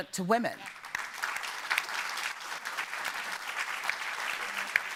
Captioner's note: audience applauding